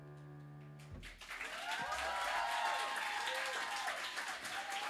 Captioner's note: applause